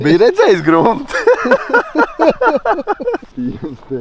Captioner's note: laughing